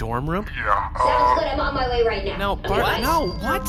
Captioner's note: distorted voice